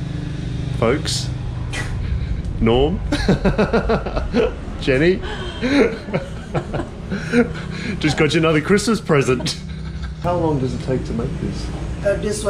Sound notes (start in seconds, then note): 4.9 laughing